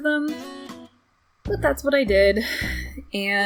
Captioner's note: sigh